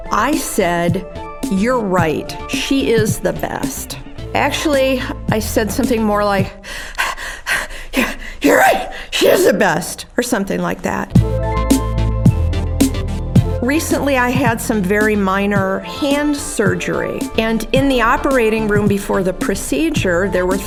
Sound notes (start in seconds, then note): 6.7 panting; 12.0 upbeat music